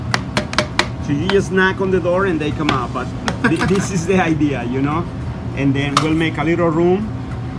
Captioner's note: laughs